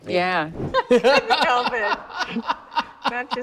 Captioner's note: both laugh